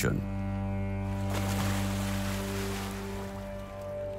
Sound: anchor splashes

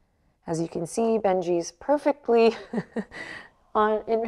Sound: chuckles

